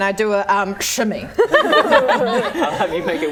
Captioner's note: laughing